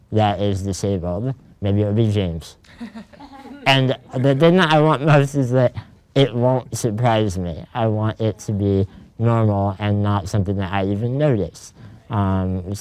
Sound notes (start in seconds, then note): 2.6 laughs